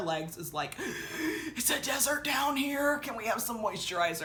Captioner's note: gasps